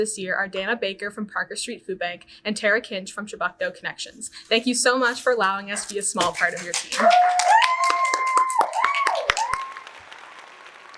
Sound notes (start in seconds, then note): 6.2 audience cheers